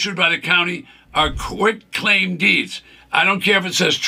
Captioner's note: screen whooshes